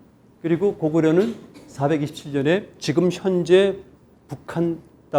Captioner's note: speaking in Korean